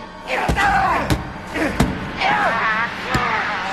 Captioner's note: screams